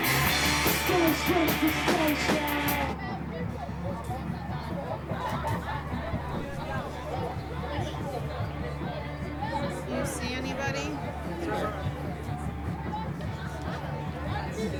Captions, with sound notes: (people chattering) (people laughing) Do you see anybody? - There's Ben.